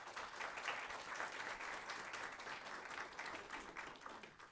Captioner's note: applause